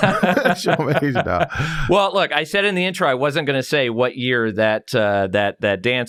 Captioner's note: laughs